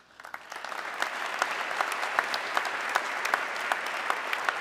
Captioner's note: audience clapping